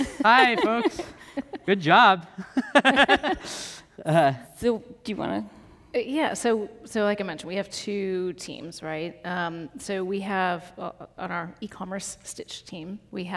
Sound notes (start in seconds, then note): 2.3 laugh